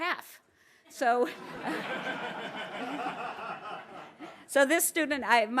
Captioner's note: laugh